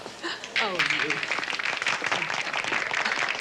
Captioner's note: all clapping